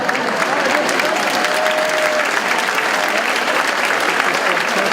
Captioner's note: audience laughing; audience applauding